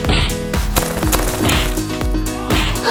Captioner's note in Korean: 파닥